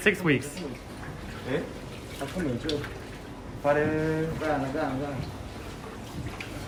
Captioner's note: speaking in foreign language